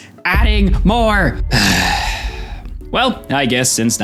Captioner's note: siiiigh